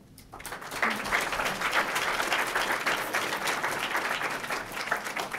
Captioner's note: group applauds